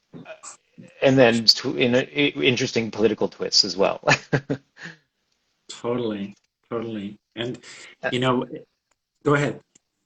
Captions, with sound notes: And then, in an interesting political twist as well (laughs) - Totally, totally. And, you know, go ahead.